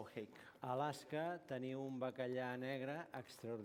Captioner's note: non-english speech